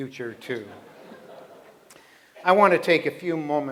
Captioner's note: laughter